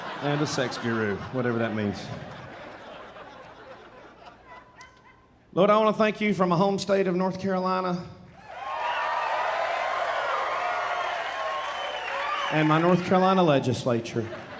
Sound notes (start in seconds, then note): 0.0 audience laughing; 8.4 audience cheering and applauding